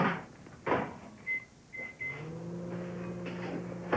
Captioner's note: microwave oven beeps